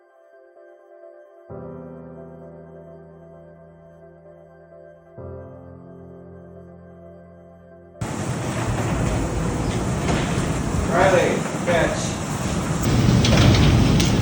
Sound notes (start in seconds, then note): 8.0 garage doors rumbling; 12.6 keys jangling